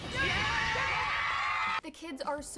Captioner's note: cheering